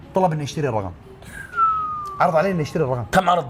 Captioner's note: whistles